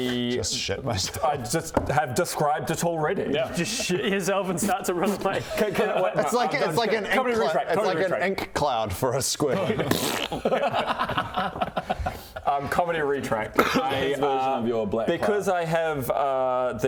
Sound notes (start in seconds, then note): 9.8 pfffpt